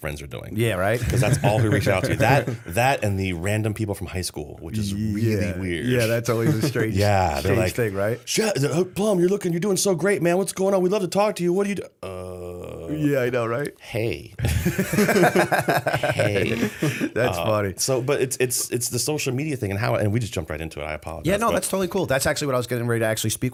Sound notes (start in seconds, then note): 14.4 laughter